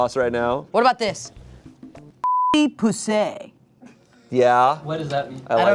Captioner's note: beep